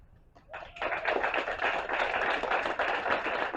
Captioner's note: applause